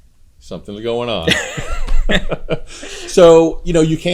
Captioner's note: laughs